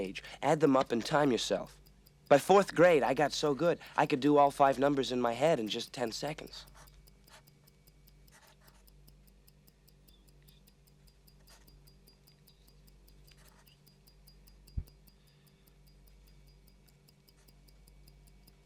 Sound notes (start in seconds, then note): 7.0 timer ticking; 8.3 scribbling